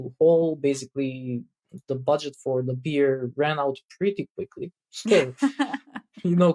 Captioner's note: <Laugh>